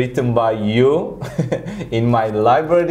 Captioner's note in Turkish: Karşılıklı gülüşmeler; Gülerek